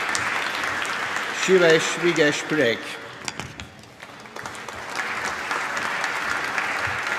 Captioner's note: applause